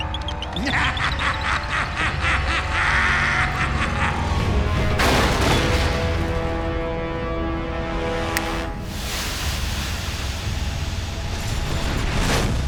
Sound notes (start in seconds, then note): 0.3 laughing; 4.7 thudding; 7.5 snapping